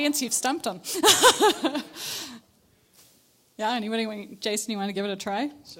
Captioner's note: laughs